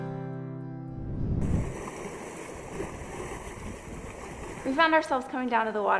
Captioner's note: ocean noise